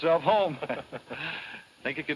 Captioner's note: laughs